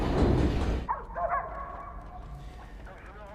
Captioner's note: dogs barking